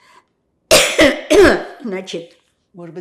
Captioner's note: coughing